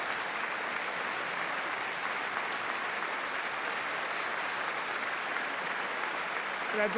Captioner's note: applause